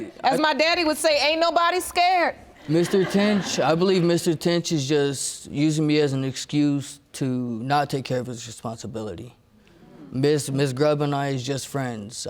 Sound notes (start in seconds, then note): 2.6 audience laughing